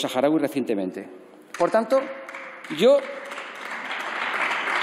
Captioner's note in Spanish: Aplausos